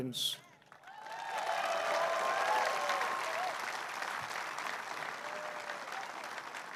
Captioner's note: applause